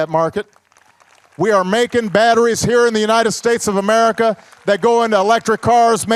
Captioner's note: applause